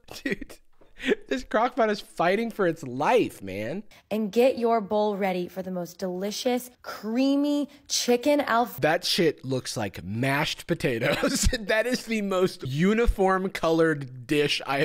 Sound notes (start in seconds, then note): 11.0 laughs